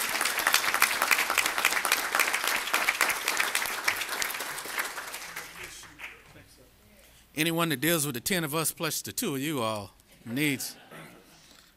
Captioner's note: applause